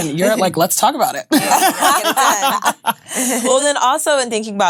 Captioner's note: all laughing